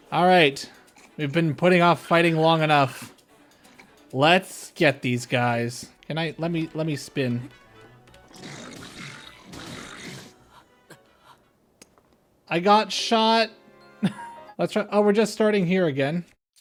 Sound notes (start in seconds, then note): 13.7 laugh